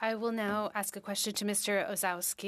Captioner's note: speaking in French